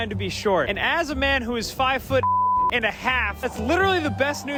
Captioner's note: beep